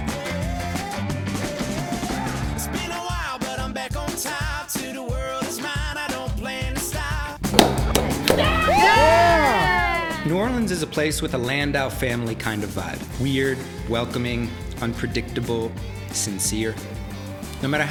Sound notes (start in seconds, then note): 7.9 loud cheering